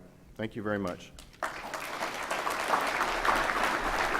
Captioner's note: applause